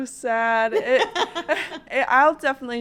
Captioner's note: panelist laughs